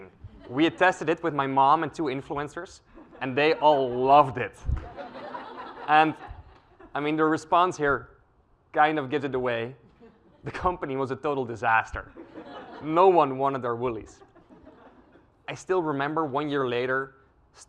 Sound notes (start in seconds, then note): 4.8 laugh